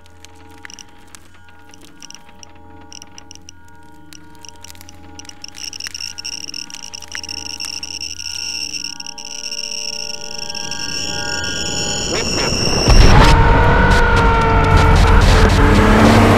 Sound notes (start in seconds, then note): 0.2 A loud ringing sound swirls through the chamber; 5.6 the geiger counter begins beeping erratically; 12.8 explosion; 14.2 screaming heard over radio